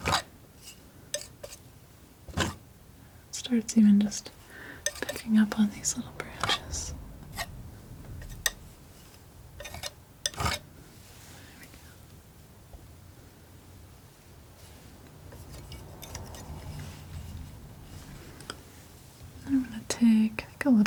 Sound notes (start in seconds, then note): 6.7 tapping; 11.9 tapping